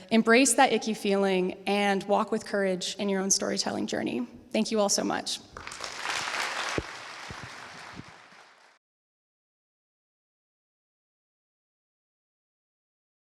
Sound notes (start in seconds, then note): 5.5 applause